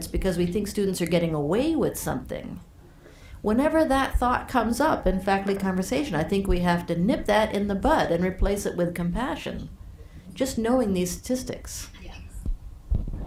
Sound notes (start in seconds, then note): none